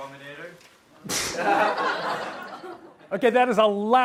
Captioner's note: audience laughs